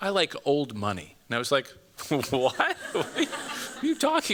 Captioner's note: chuckling